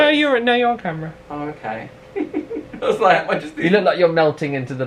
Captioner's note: laughs